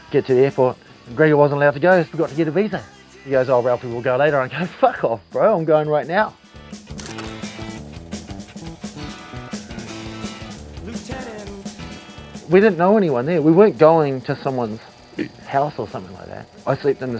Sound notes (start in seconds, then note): 15.2 burps